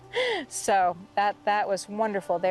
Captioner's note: laughing